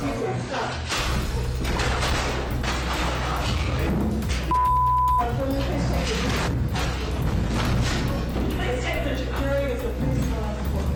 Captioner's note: crashing